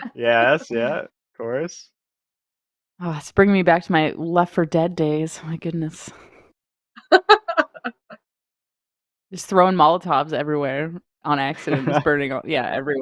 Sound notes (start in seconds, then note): 7.1 laughs